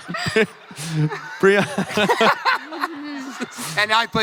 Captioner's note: laughs; crowd laughing; laughs